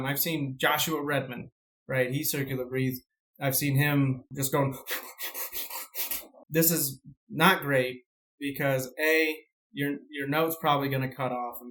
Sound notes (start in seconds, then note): 4.9 quick Inhaling